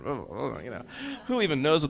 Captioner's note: mumbling